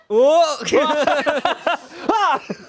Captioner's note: laughing